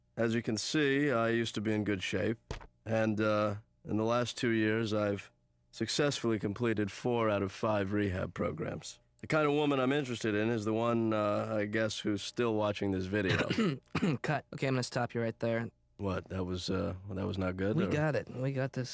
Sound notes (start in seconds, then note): 13.2 clears his throat